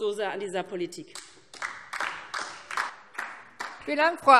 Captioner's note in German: Beifall DIE LINKE